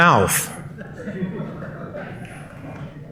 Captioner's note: laughter; clapping